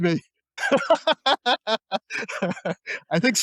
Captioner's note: laughter